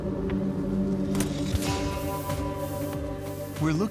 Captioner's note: click